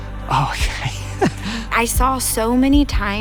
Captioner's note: laughing